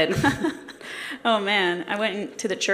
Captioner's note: laughing